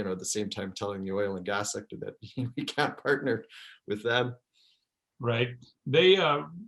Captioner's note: laughs